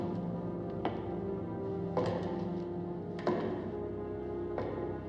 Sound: footsteps

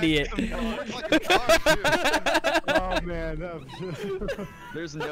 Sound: laughing; laughter

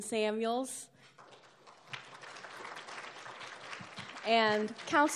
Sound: applauding

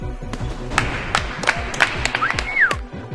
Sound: applauses; cheering

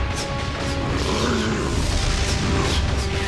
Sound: Appa grunting

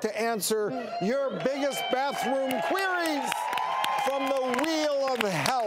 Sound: audience cheers

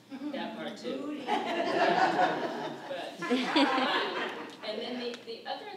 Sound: audience laughs

